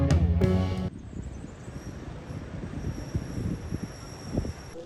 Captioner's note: city and wind sounds fade in